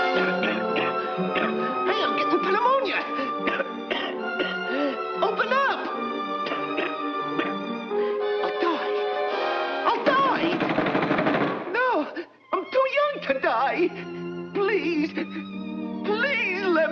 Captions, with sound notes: (dramatic music) (Bugs Bunny coughing) Hey, I'm getting' pneumonia. (coughing) Open up. (coughing) My God, I'll die. (fists pounding) No, I'm too young to die. Please, please let me in.